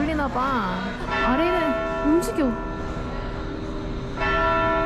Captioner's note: bell rings loudly